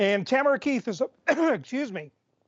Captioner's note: coughing